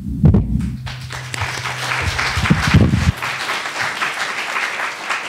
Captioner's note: attendees applauding